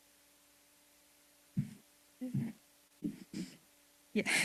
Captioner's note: adjusting mic